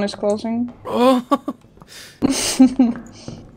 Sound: noise of disbelief

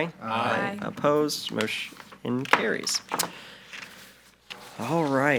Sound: gavel taps

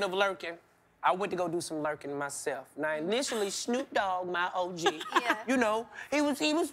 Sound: laughing

